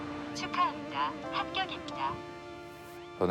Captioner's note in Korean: 기계 음성